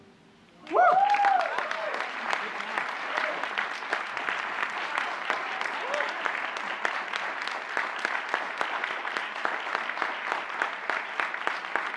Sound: applause

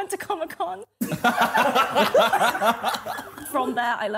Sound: laughing

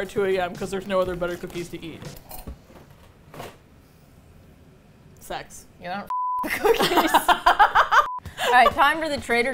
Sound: both laugh

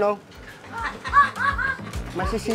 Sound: laughter in the background

